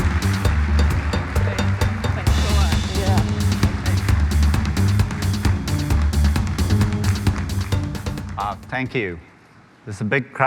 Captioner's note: applause